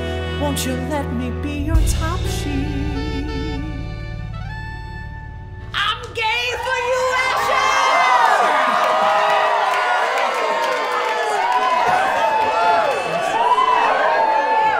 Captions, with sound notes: Won't you let me be your top sheet? I'm gay for you, Asher!!! (audience cheers!)